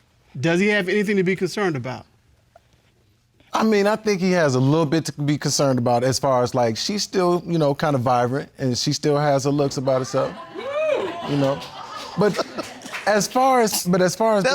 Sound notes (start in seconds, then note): 9.8 audience cheer; 13.6 laughs